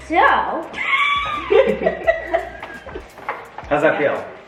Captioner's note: laughs